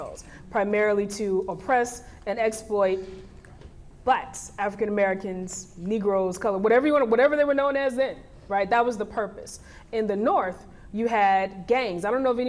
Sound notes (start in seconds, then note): none